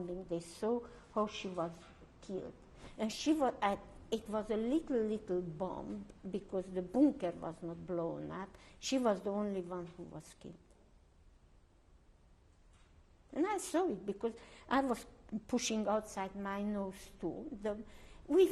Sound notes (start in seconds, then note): 10.7 pauses for 3 seconds